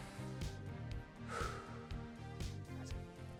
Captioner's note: exhales